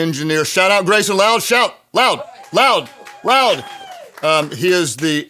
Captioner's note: audience cheering